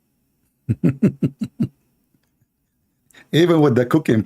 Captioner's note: Ketawa